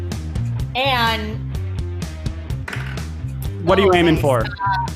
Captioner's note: dice clangs